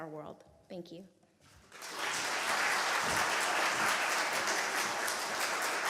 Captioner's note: applause